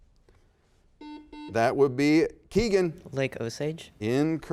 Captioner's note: buzzer beeps